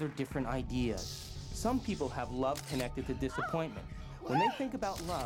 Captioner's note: moaning